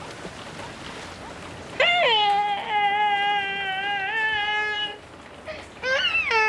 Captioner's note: crying